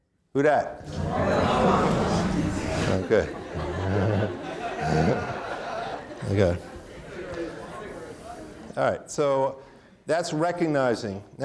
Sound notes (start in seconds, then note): 3.7 audience laughing; 3.7 chuckles